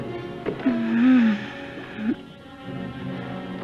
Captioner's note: groaning